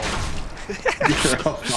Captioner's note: laughs